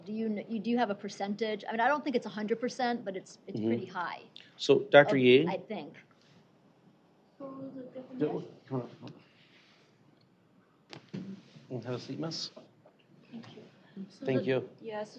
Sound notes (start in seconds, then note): 7.5 indistinct chatter